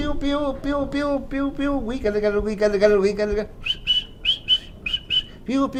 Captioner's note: song of birds